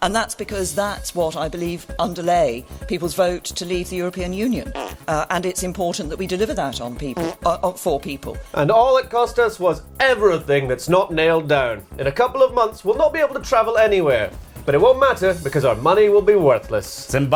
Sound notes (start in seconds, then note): 4.6 little fart; 7.1 little fart